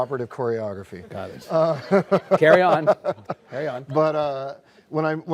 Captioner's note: laughs